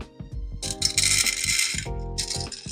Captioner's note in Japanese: 豆を入れる音